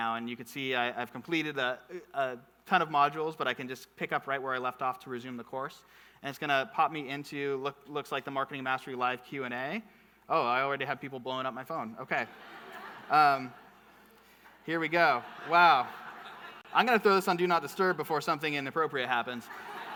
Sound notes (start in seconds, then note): 14.7 audience laughing; 19.3 audience laughing